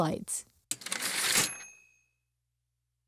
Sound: typewriter ding

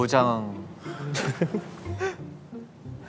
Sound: laughing

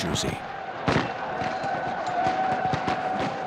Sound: gunshots

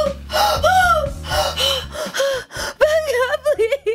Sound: Mary breathes heavy

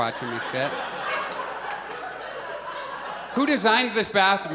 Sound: audience laughs

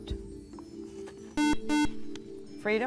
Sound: buzzer

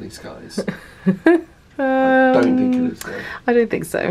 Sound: laughing

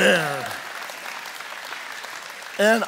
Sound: congregation cheering and applauding

